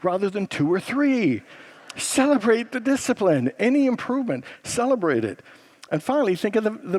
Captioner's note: congregants laugh